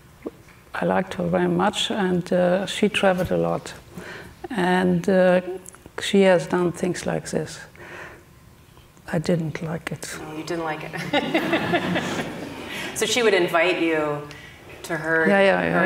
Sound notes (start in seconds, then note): 11.0 audience laughing